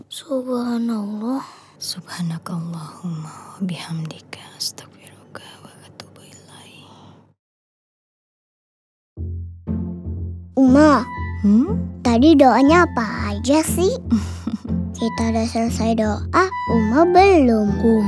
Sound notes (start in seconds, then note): 14.2 laugh